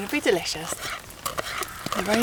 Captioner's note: chop chop chop